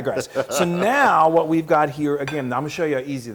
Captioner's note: laugh